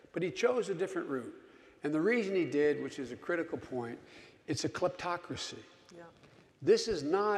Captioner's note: none